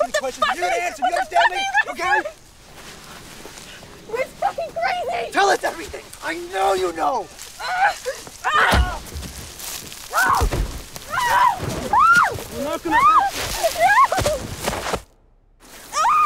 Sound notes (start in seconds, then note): 7.6 Rosemary groaning; 8.8 Rosemary screaming; 15.9 Rosemary screaming